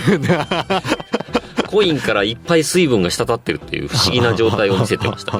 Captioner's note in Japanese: 笑い